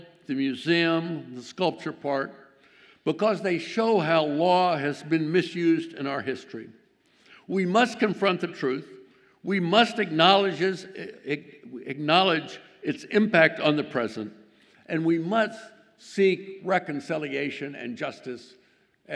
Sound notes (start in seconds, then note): none